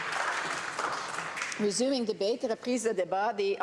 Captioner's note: applause